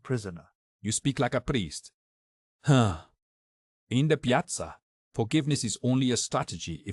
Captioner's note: sigh